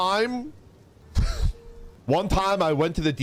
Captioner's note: orc chuckles